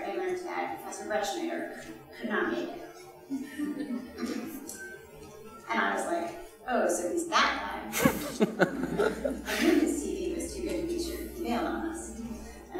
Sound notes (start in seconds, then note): 7.9 laughing